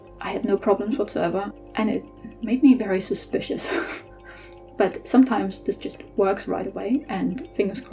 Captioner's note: laughs